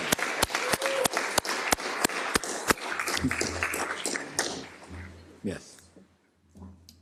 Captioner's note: applause